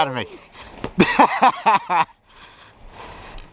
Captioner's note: laughs